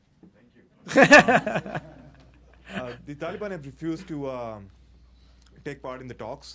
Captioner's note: laughter